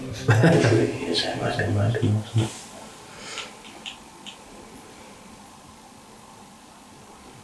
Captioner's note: replay of hearing footsteps